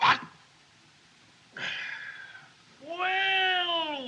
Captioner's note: Doc Sighs